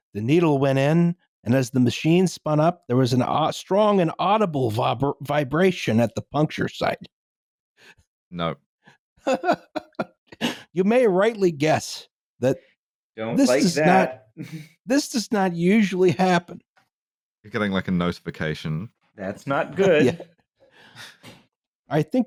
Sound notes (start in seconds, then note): 9.2 laughs